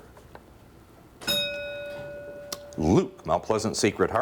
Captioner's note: bell rings